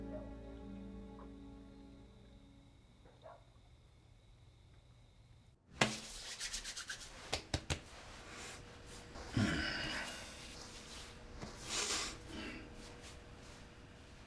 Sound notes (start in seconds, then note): 0.0 dog barking outside; 5.8 rubbing, patting sounds; 11.6 inhales, exhales